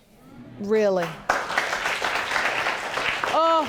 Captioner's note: audience claps